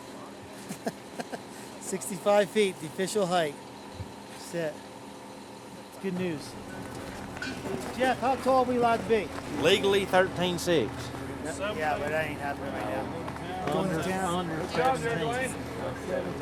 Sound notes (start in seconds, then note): 0.6 laughs